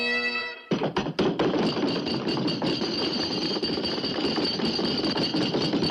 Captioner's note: bagpipes end; pounding table